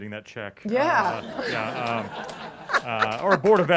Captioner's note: laughter